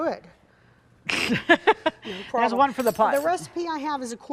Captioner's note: laughing happily